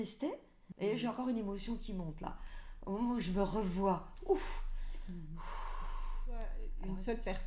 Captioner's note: breathing